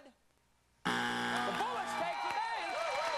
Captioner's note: buzzer